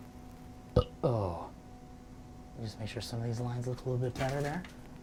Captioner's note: sighs; burps; sighs